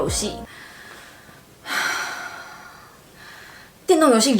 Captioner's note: deep breath